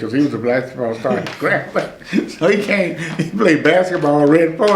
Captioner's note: laughs